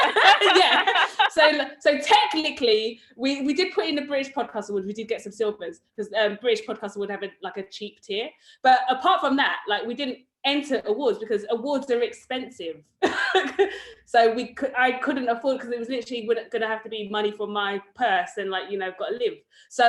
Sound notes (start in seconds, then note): 0.0 laughs; 13.2 laughs